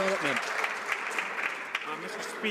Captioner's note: some Applause